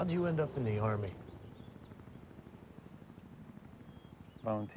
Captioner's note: helicopter flying